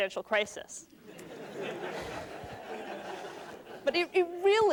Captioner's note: laughter